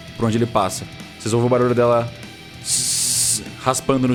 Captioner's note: tssss